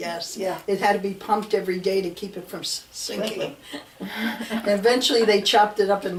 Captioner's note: laughs